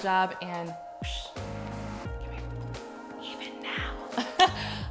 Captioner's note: whispering